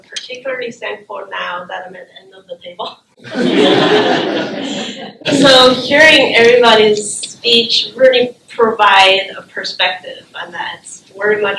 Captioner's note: laughter